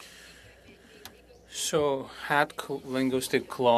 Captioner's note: speaking French